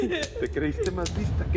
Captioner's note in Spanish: Sollozos